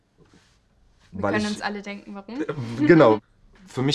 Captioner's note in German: lacht